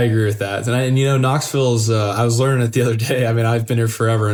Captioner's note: laugh